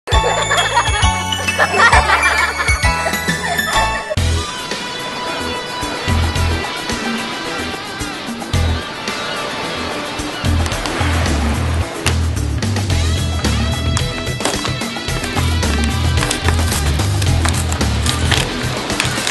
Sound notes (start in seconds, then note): 0.0 intro Music; 4.4 ocean sound, beach, seagulls, water splashing